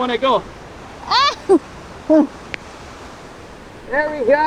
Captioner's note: groaning